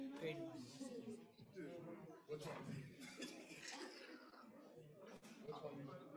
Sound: crowd continues murmuring indistinctly

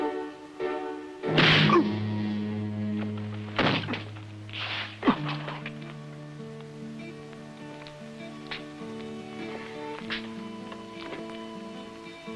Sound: grunt

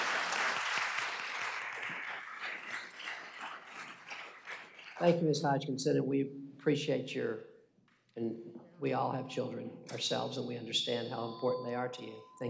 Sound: applause

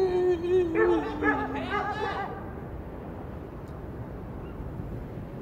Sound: dogs barking

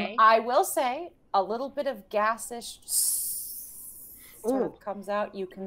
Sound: hissing

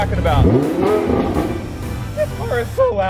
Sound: engine growls

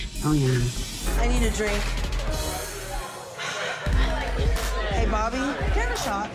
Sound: sighing

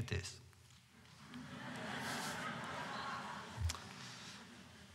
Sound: laughter

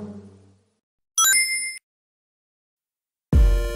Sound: Sonic collecting ring sound is heard

